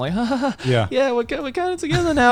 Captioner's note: laughs